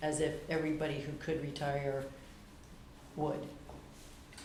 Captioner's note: whispering